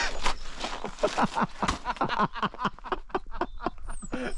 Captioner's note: men laugh